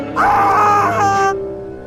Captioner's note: Christopher yells